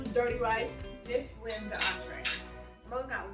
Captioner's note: bell rings